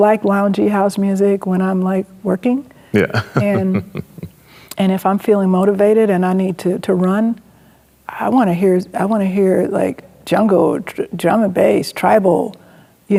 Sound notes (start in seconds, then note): 2.9 chuckles